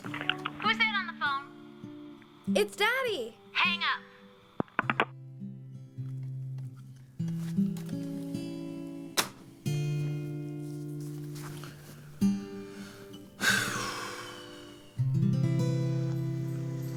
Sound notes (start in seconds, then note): 4.4 click